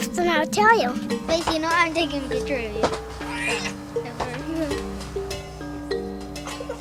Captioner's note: children talking softly and laughing